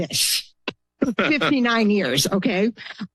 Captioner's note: laughters